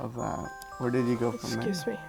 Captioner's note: phone ringing